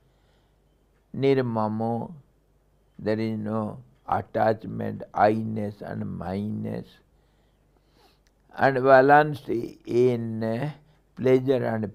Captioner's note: sanskrit